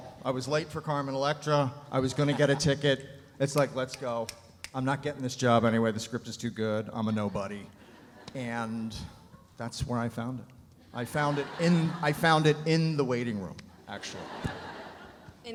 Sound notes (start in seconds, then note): 4.2 fingers snapping; 13.8 audience laughs